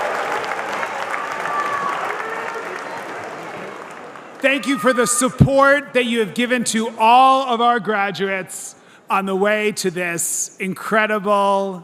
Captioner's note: cheers and applause